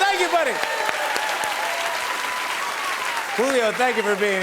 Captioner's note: cheers and applause